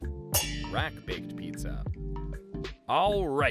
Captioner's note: metal clangs